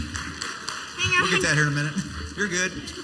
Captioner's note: clapping